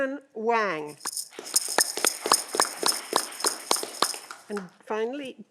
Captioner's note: audience clapping